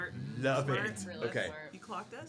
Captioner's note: group hums in agreement